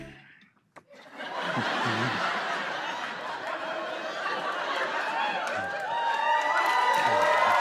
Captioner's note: laughter; cheers and applause